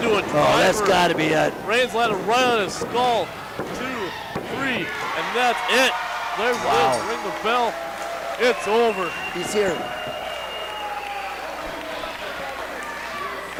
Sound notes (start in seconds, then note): 3.3 referee thumps the mat; 5.8 crowd cheers; 6.5 bell rings; 10.4 crowd cheers and yells